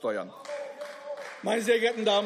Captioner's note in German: Beifall